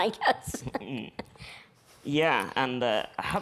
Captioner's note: chuckles